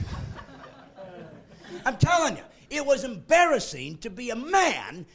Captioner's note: laughing